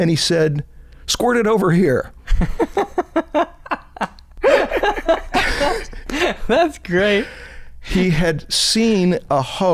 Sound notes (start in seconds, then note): 4.0 chuckle